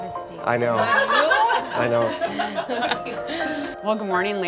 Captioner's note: laughter